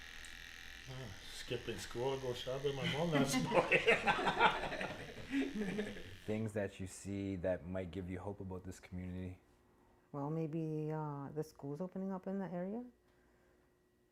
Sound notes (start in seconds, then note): 0.2 laughs; 5.6 laughter